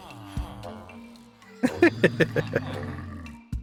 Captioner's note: laughing